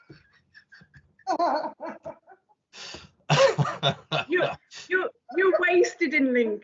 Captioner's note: laughter